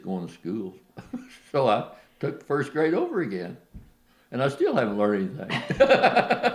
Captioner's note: laughter